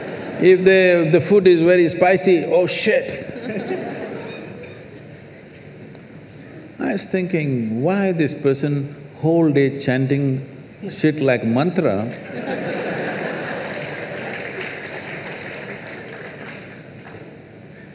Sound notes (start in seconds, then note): 15.3 laughter